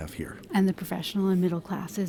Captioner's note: voiceover